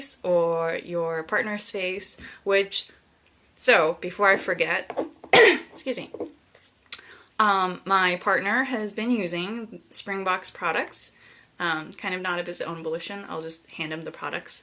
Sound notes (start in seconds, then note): 5.3 coughs